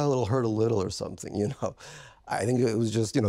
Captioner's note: chuckling